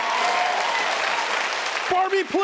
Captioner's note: audience applauding